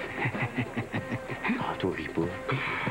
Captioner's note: Rire